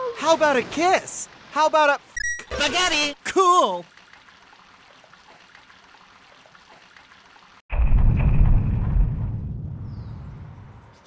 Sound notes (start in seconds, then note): 2.6 in Luigi's Hotel Mario voice